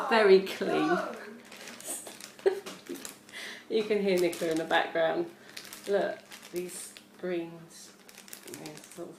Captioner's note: my sister is shrieking in the background which makes me laugh